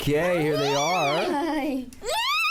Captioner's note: squealing